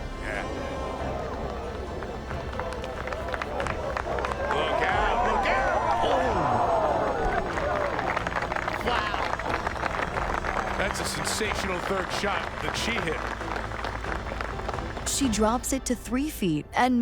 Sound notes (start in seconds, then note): 2.9 crowd applauds; 6.2 crowd applauds